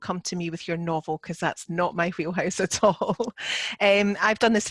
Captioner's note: chuckling